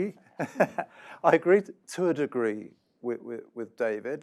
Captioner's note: laugh